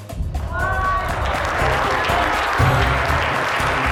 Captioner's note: Aplausos